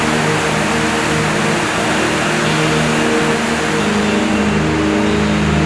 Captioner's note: water churning